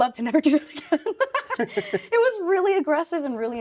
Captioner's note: laughing; chuckling